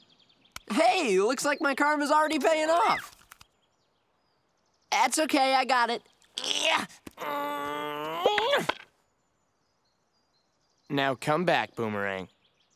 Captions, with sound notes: Hey, looks like my karma is already paying off! That's okay, I got it. [grunting] Now, come back boomerang.